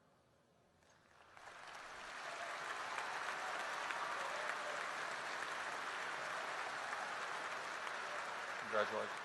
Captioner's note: applause